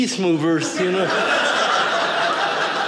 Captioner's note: audience laughing